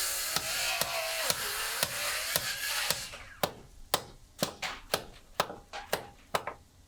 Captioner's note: saw buzzing; hammer banging